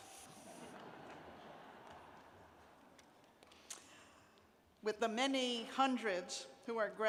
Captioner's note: laughter